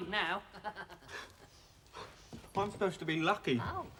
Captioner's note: laughs